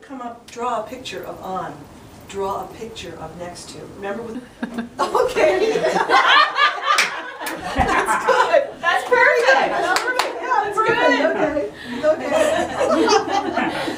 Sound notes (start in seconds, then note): 5.4 laughing; 12.9 laughing